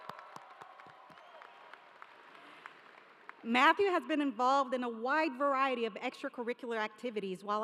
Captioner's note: cheering